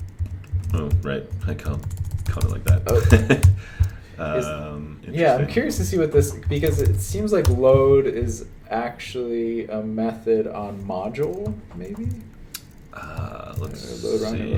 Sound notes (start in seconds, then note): 2.8 chuckles